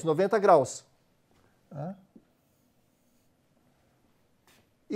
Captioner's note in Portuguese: pausa sonora